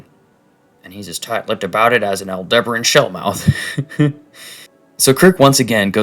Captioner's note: laughs